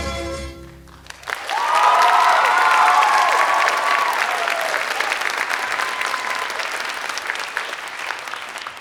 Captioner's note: applause